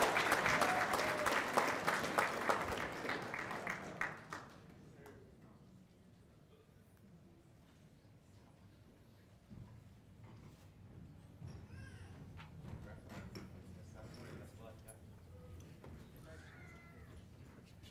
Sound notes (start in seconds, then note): 6.0 applause